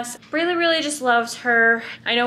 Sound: none

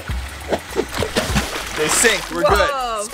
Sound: water splashing

